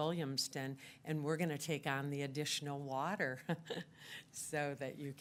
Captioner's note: laughs